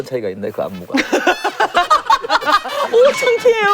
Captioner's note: laughs